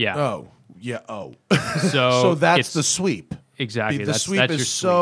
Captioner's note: laughter